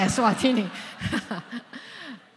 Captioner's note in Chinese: 笑聲